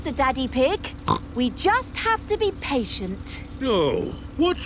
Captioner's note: snorts